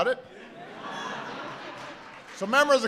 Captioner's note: laughter